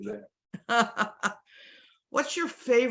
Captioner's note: laughs